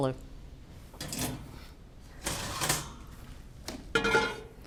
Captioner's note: rack rattles; pot clanks